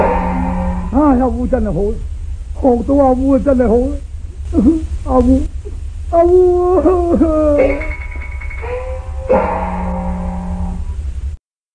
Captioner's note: Mr. Chow is crying very sadly